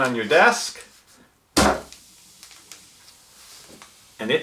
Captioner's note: bang